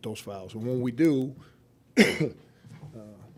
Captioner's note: coughs